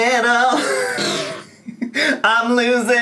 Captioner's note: laughs